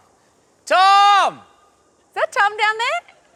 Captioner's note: shouts